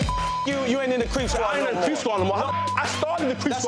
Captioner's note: beep